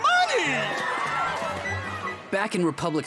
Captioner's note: screaming